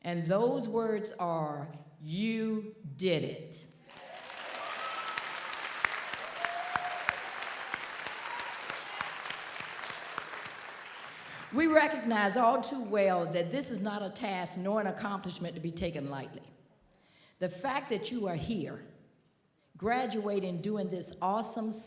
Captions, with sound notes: and those words are you did it. (audience applauds) (audience cheers) We recognize all too well that this is not a task nor an accomplishment to be taken lightly. The fact that you are here, graduating during this awesome